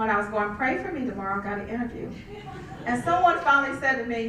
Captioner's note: laugh